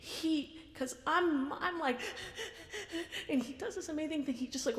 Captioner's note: hyperventilating